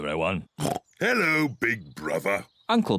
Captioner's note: oinks